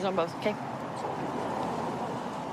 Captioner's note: vehicles driving